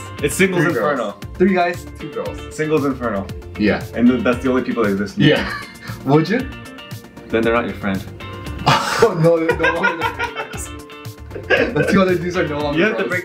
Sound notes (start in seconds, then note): 9.4 laughing